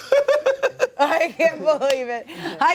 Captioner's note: laughter